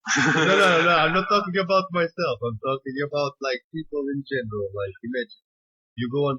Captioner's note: laughter